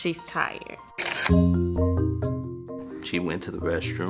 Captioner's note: soft instrumental music; camera shutter clicks